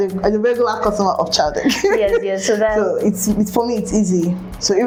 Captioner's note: laughs